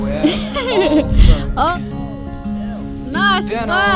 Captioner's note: laughs